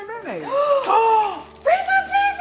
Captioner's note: both gasping